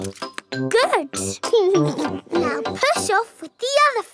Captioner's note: chuckles